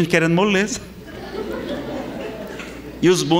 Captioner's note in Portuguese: risadas